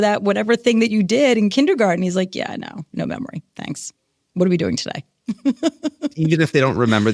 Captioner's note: laughs